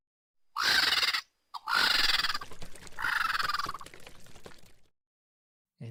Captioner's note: bird caws permeate the air as water slushes